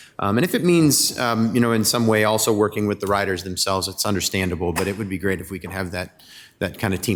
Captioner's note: none